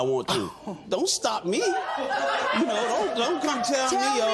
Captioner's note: laughter